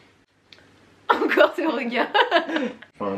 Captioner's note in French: rires